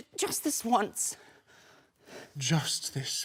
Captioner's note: heavy breathing